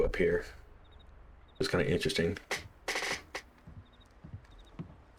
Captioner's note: chair creaking x.x